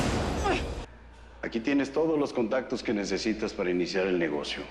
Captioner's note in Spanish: Quejidos